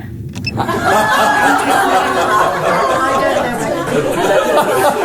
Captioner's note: crowd laughing